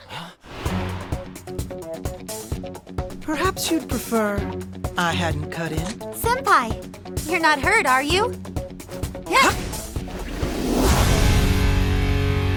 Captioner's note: shouting